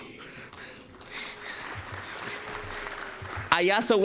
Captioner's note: applause